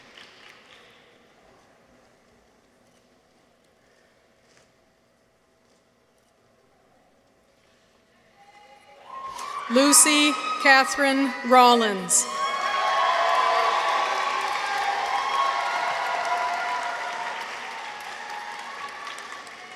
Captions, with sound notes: Lucy Catherine Rollins. -(people cheer) -(audience applauds)